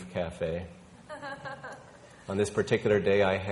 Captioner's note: woman laughing